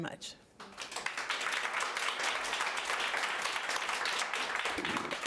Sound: audience applauding

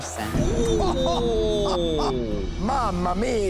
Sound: cuban laughs

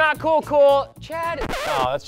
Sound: record scratch

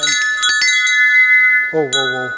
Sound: bells

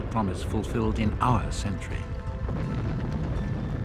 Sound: explosion booms

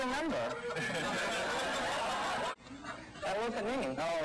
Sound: audience laughing

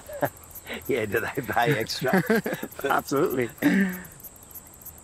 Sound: laughs

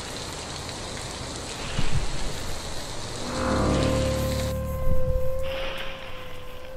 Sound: a drawn-out piercing metallic shriek that gradually fades

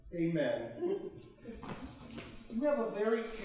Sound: both chuckling

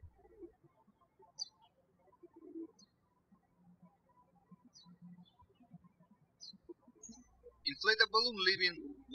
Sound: birds chirping

